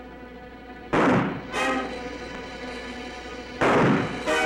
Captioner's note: gunshots banging